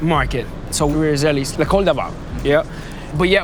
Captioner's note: speaks in foreign language